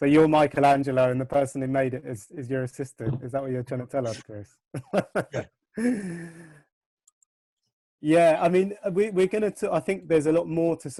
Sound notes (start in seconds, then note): 4.8 laughs